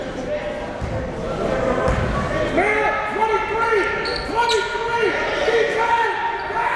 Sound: gymnasium bustle loudly

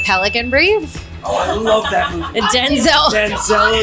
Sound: laughs

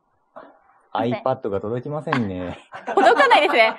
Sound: laughs

